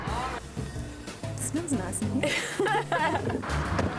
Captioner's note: they laugh